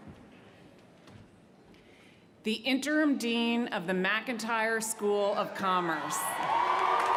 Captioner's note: cheers & applause